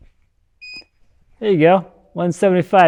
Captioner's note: scale beeping